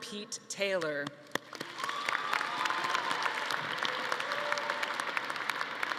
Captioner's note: audience applauding